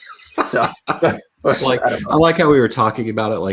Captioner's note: laughing amusingly